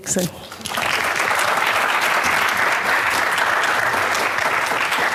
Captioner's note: applause